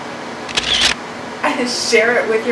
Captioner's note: camera shutter